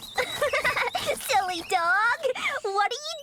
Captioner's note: giggling